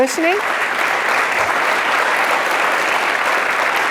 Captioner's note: audience applauds